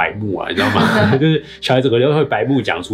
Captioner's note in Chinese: 笑聲